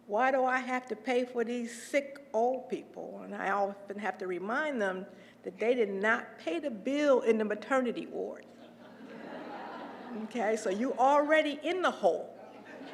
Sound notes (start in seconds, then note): 8.7 laugh